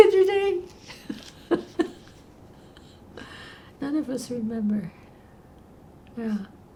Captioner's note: laughing